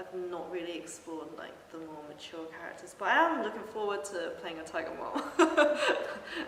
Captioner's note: laughs